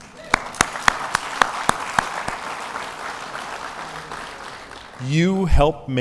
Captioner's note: applause